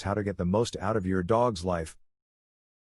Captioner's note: Arabic